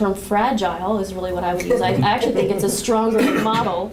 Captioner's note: laughter